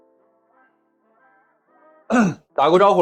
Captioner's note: cough